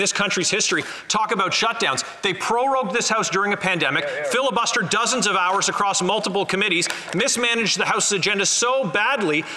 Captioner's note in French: voix de l'interprète